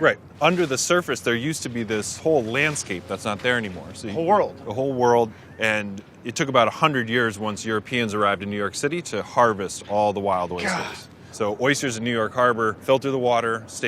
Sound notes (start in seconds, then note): 10.5 gasps